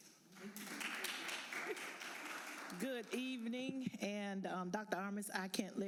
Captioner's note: applause